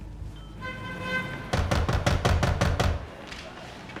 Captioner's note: knocking